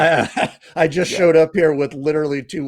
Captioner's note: laughs